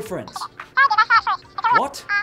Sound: cartoonish phone speech

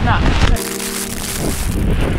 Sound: water pouring; wind & rain

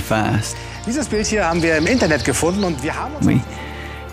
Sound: speaks German

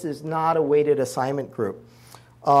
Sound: none

